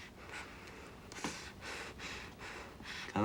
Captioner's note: breathing heavily